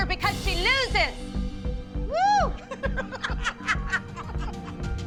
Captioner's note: whooping, laughing